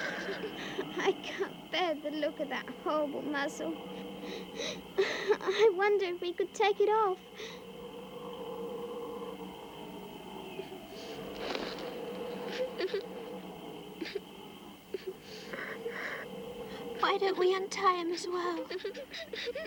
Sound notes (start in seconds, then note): 12.2 Lucy weeping softly